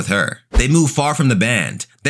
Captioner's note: air whooshing